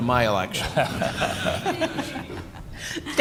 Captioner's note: laughter